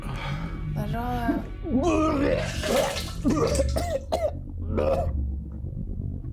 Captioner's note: vomits; coughs